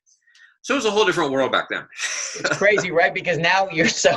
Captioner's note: laughs